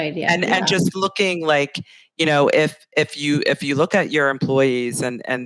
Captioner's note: laughs